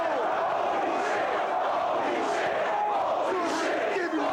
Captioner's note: crowd chants "Holy shit"